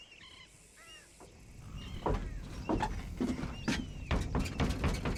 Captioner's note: footsteps